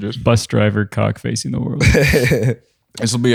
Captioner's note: chuckling